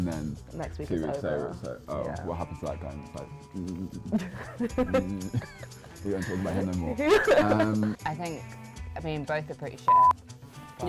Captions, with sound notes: And then-- - Next week, it's over. - Two weeks later, it's like, "Oh, what happened to that guy?" and just like (grunting). - (laughing) - We don't talk about him no more. Um... - I think, I mean, both are pretty shit, but--